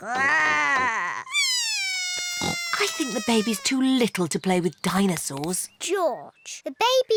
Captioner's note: bawls